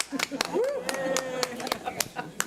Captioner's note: board members clap